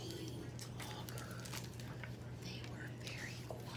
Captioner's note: whispers